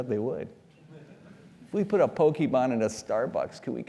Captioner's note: laugh